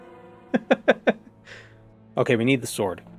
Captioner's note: more laughing